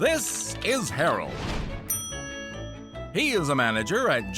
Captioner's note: bell dings